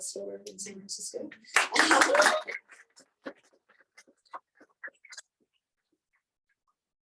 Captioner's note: clapping and cheering